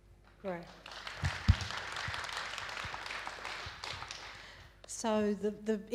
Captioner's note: audience applauding